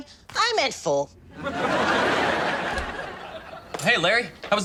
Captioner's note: audience laughs